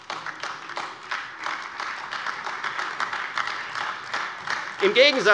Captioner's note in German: Demonstrativer Beifall AfD